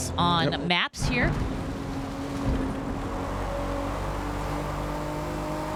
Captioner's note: engines roaring